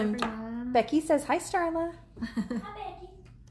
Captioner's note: laughs